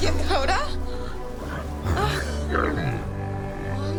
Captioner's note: deep chittering